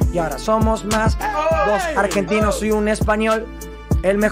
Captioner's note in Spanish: gritan